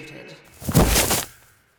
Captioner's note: thud